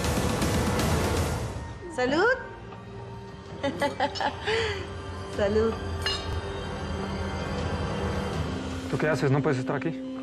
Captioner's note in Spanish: chocan las copas